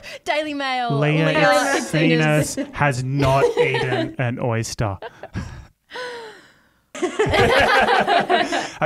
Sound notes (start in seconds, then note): 0.0 laughs; 5.3 all laugh